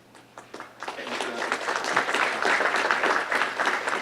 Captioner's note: audience applauds